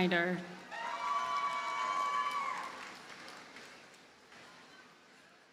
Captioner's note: audience cheers and applauds